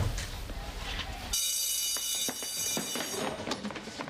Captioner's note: bell rings